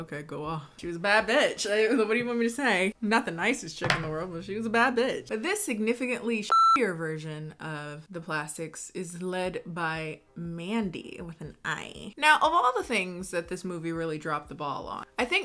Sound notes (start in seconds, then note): 6.4 beep